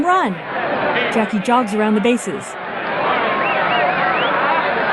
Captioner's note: rising cheering and whistling